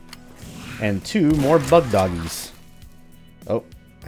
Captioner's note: Bugdogs snarl